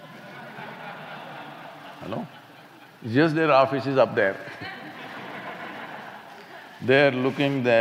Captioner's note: laughter